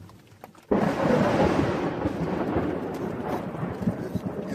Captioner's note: thunder claps